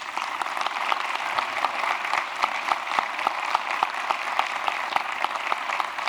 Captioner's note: applause